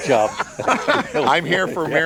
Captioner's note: laughing